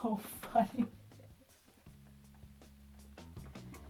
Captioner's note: laughs